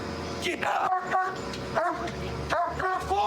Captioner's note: barking